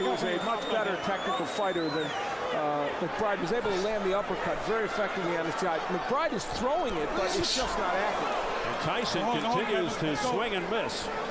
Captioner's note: applause